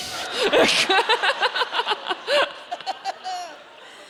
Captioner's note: audience laughing